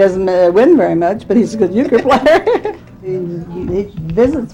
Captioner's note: laughs